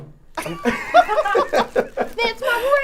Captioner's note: all laughing